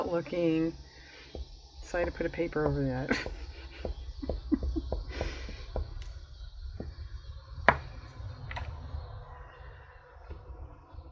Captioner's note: laughs